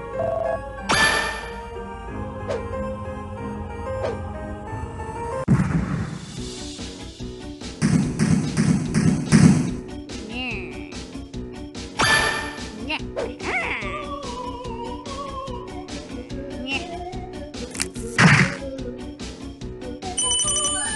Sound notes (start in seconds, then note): 2.3 swoosh; 3.8 more swoosh